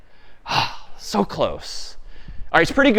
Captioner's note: sighs